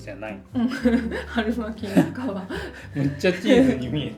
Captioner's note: laughs